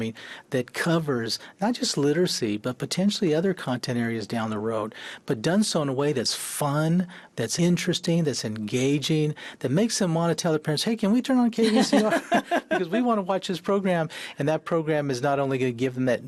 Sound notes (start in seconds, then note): 11.6 laughs